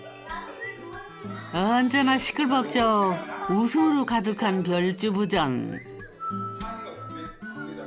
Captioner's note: The Rabbit House, bustling with the sound of people